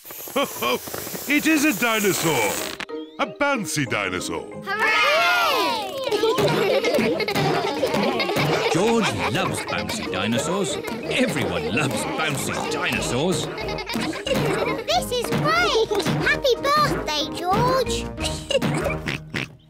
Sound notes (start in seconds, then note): 0.3 laughs; 6.1 kids laughing; 16.6 oinks; 17.9 laughs